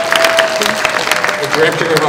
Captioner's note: applause